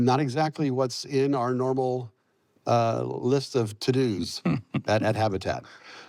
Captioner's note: chuckles